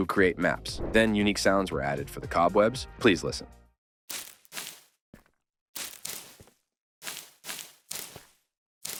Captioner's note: web sounds